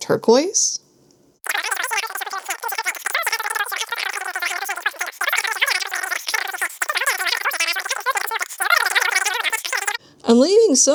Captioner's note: cartoony gibberish sounds